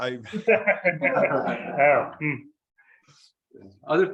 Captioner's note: members laugh